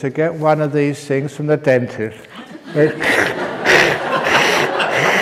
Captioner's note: laughter